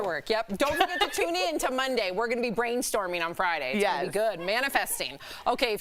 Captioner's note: laughter